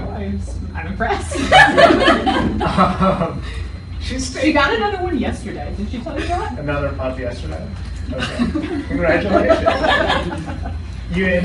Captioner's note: laughing